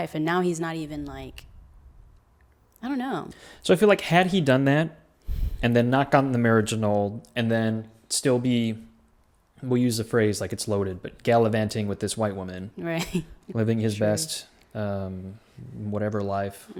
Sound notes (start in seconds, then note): 13.4 laughs